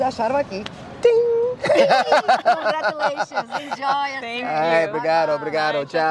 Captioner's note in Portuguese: Risada